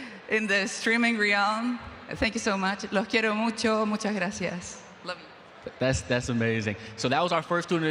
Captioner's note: speaking spanish